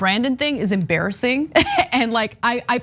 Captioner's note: laugh